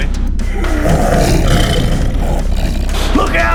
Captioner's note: snarling